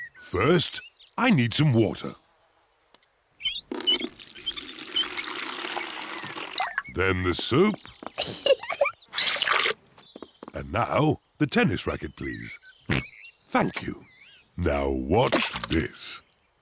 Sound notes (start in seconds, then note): 8.1 giggles; 12.9 oinks